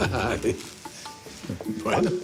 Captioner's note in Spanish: Roberto ríe